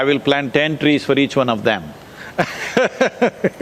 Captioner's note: laughs